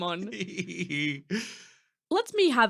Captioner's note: laughing coyly